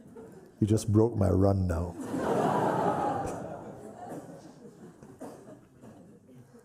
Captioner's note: laughter